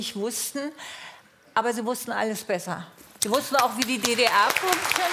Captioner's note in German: Applaus